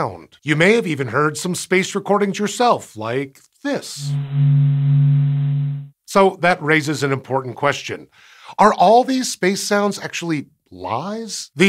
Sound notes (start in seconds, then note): 3.9 space audio